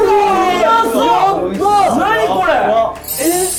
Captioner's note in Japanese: 一同：歓声